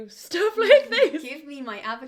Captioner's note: laughter